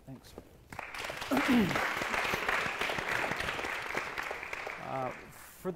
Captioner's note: applause